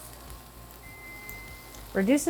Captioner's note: hob beeps